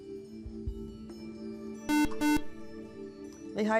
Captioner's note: buzzer